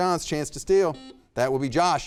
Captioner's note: buzzer beeping